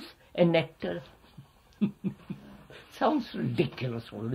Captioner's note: laughs